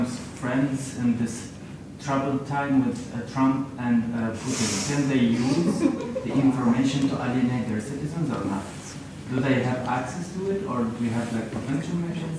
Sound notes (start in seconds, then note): 4.4 inhale; 5.4 laughter